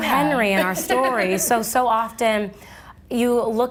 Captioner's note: laughing